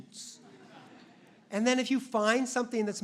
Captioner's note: audience laughs